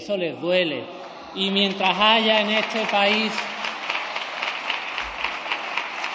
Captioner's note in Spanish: aplausos